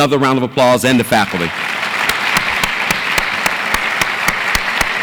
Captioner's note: audience applauds